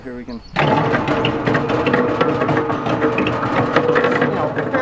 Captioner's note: washer tumbling